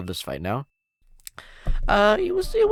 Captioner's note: smacks lips